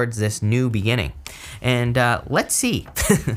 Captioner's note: chuckles